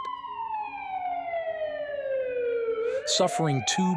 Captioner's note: sirens wailing